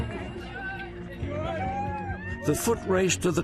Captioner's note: competitors cheering